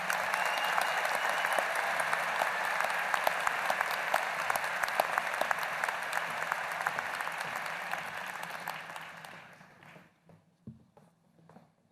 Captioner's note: applause